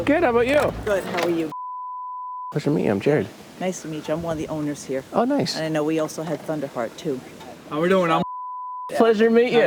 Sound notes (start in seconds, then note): 1.5 beep; 8.2 beep